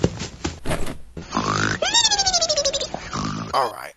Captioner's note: snore